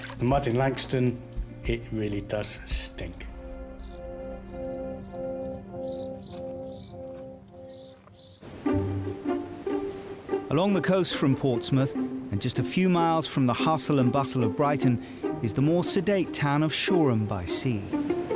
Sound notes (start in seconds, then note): 4.5 birds chirping; 4.5 gentle music; 8.8 light music